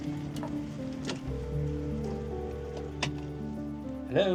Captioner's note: phone rings